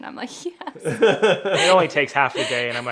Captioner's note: laughing